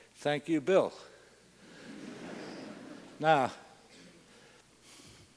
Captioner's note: laugh